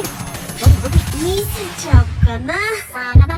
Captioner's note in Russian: стук сердца